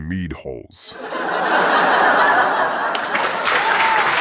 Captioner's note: audience laughing; audience clapping